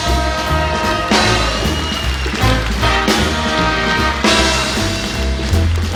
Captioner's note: audience applauding